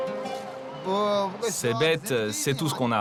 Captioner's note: foreign language spoken